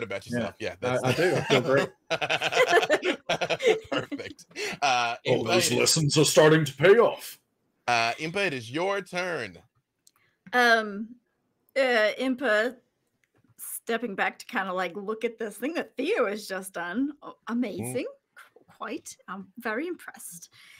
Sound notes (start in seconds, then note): 0.9 laughing